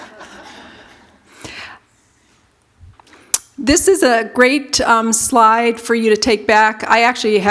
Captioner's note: laughter